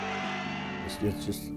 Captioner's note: audience cheers and applauds